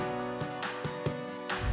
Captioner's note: upbeat music; air whooshes